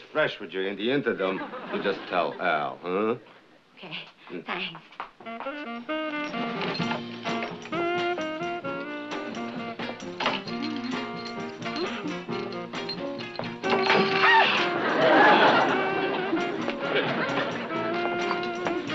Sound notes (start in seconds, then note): 14.1 startled screaming